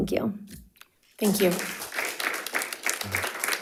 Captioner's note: crowd applauding